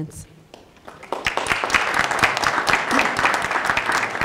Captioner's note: applause